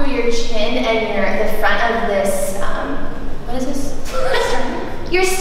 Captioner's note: laughs